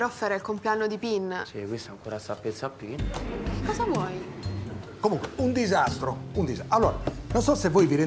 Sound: laughs

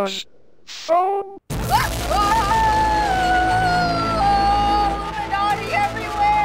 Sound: prolonged scream

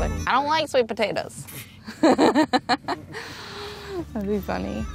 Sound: laughs

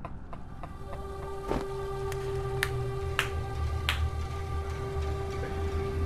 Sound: laughs

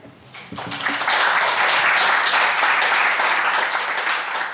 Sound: audience applauds

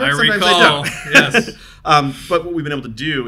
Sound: both laughing

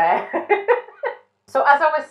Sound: laughing

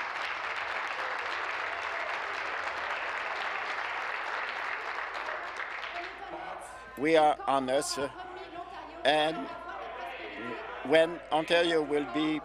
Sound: applause

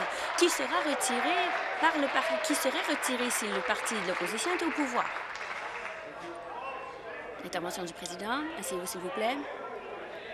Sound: applause

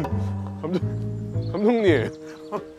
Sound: is crying

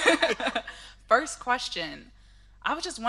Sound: laughing

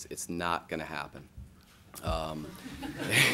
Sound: laughing

